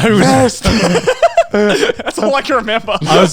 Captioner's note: everyone laughs